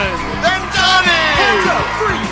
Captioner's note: rapturous cheers